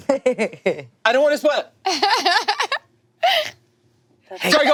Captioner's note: laughing